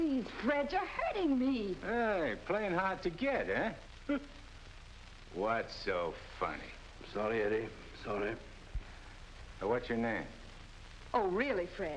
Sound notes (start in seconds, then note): 4.9 Nick laughs